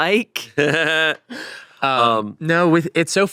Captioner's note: chuckles